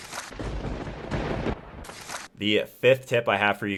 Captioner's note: thunder rumbling